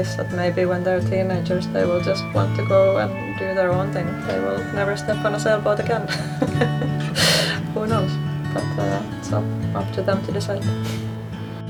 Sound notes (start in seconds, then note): 5.7 laughs